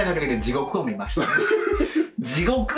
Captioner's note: laughs